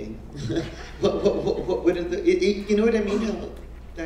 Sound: laugh

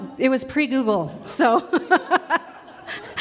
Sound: laughter

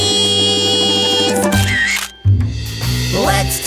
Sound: camera clicking

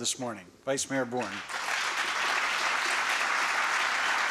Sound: applause

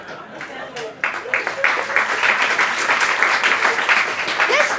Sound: applause

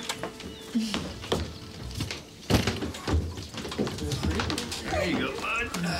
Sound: heavy footsteps

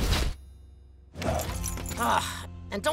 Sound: groaning

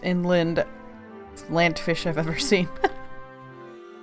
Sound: laughing

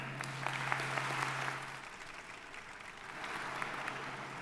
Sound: audience applauding

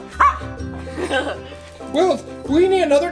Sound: Wiggles barks; assistant laughs

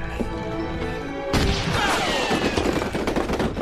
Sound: shooting

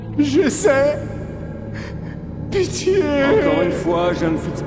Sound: sobbing

